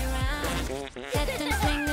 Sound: Fingerling farts

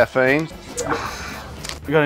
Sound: sighs

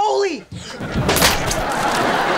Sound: canon firing; laughing

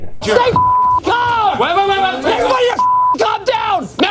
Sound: people yelling

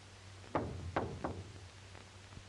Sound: knocking at the door

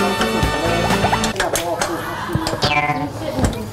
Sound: scratching

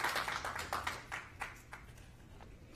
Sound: applause

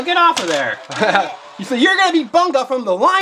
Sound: both laugh

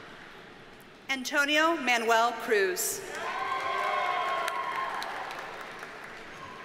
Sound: audience cheers and applauds

